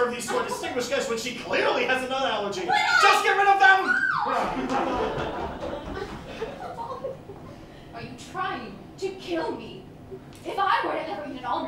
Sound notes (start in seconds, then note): 3.7 Corrine squeals; 4.3 laughter